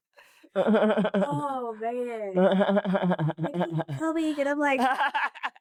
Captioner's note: tears